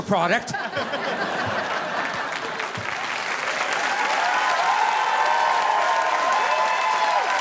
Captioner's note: audience laughing; audience applauding